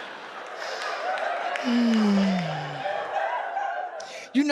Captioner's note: audience laughs; audience cheering